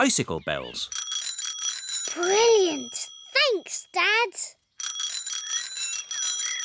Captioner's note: bells ring